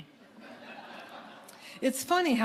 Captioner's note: audience laughing